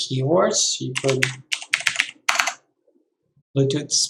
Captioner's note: keyboard clicking